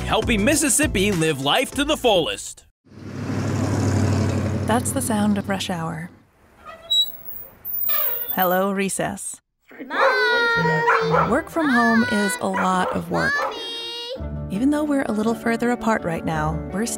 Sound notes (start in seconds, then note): 2.9 engine rumbles; 6.6 squeak; 9.9 barking